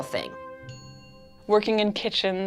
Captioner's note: bell ringing